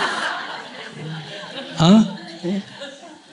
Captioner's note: audience Laughter